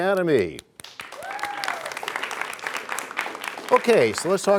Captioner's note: cheers and applause